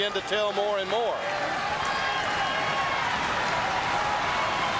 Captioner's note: audience cheering